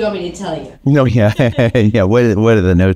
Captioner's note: laughing